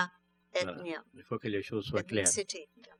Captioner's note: speaking french